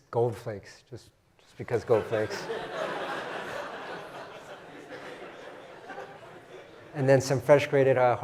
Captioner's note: laugh